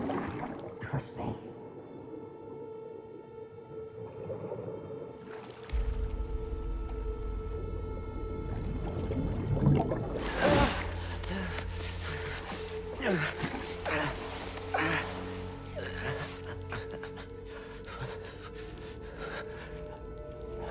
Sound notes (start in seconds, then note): 10.8 groan; 11.2 panting, grunting; 17.2 shivering